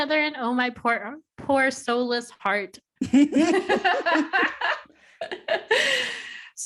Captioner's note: laughter